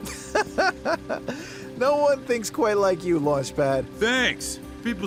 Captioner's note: optimistic music; laughing